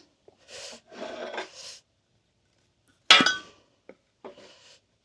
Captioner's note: metal clinking